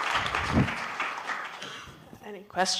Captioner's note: applause